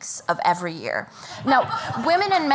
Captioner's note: laughter